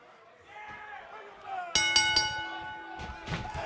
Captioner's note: bell ringing